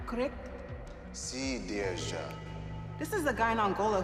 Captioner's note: man responding in a foreign language